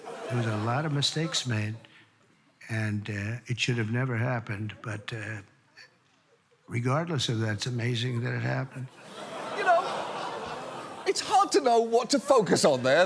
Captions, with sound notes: There was a lot of mistakes made, and it should have never happened, but... Regardless of that, it's amazing that it happened. -You know... -(AUDIENCE GROANING, LAUGHING) ...it's hard to know what to focus on there.